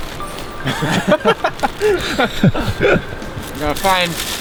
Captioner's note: all laughing